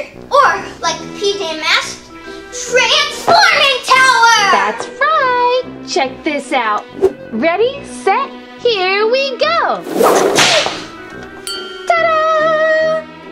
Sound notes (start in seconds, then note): 9.8 wind rushing; 9.8 whip cracking